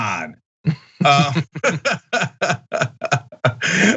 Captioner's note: laugh